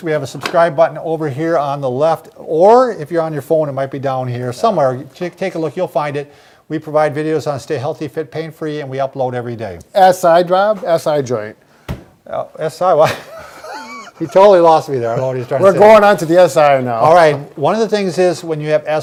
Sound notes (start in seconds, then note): 13.0 quiet laughing